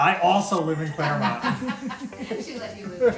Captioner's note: laughter